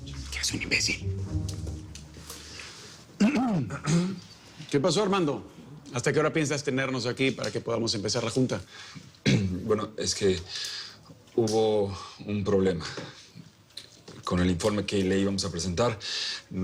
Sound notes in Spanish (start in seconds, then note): 3.2 Carraspean